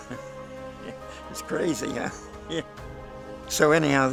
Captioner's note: laughs